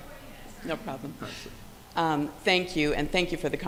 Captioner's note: speaks away from mic